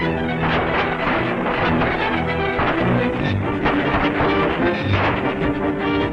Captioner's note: gunfire